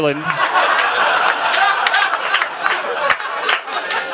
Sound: crowd laughing

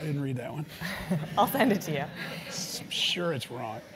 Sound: laugh

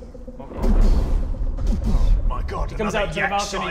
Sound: boom boom

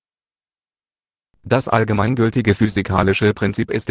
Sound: German not translated

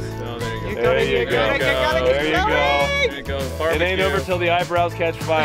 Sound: shouting encouragement

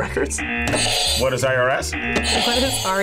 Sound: buzzer rings; buzzer

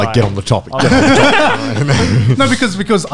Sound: laughing loudly

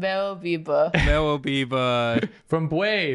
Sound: laughter

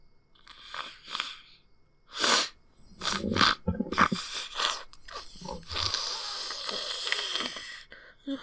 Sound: sniffing

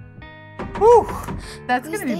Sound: knock on door

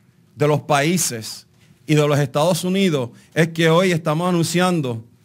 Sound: speaking in Spanish

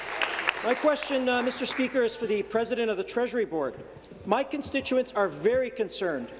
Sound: applause

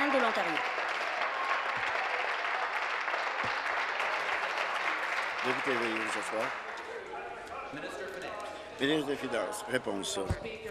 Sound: applause

